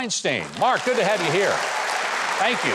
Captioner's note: audience applauding